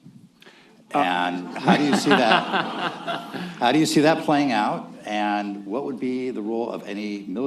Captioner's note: laughter